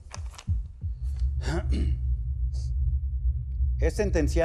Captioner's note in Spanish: se aclara la garganta